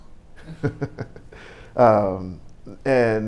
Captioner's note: laughing